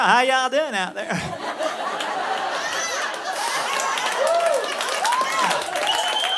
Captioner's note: audience laughing